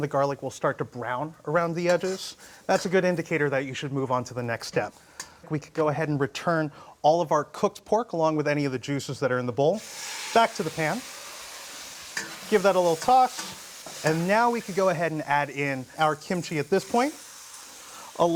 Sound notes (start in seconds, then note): 9.7 sizzling